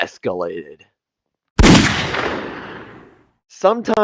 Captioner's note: gunshot